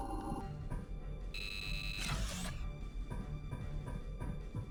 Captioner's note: beeping